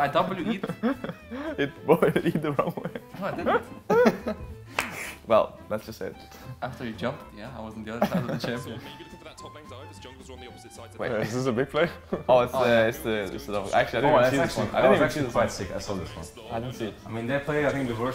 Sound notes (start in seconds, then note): 0.2 laughing; 0.2 giggles; 11.8 laughs